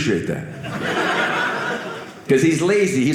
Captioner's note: audience laughing